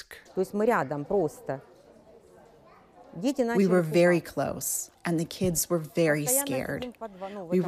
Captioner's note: through translator